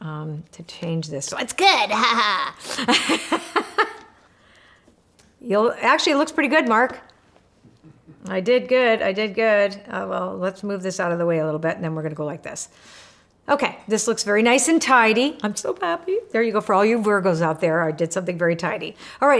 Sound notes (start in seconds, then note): 1.6 laughs